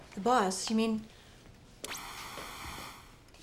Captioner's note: static